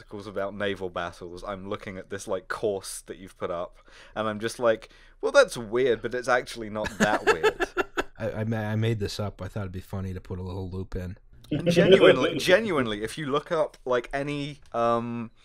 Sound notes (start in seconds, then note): 6.8 laughter; 11.5 laughter